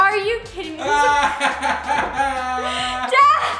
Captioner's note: laughs